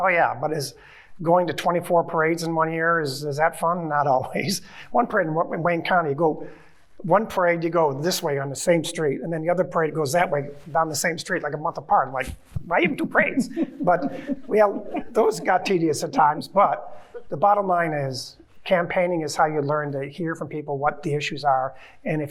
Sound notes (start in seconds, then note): 12.7 chuckling